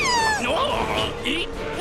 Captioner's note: stammers